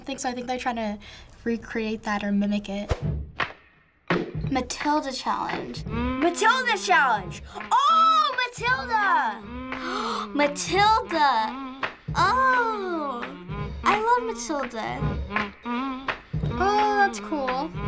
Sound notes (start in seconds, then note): 9.4 gasping